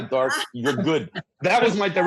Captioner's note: everyone laughs